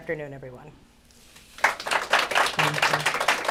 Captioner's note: applause